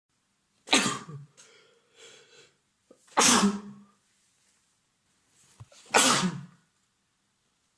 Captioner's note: triple sneeze